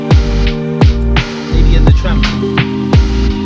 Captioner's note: laughing